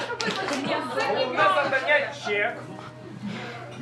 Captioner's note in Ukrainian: сміх; викрик з натовпу